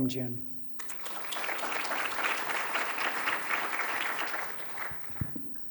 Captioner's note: applause